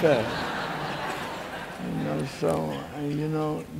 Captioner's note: laughing